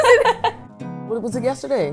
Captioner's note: laughs